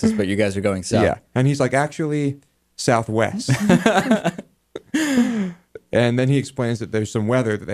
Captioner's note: laughs